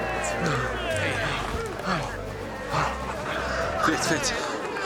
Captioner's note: grunting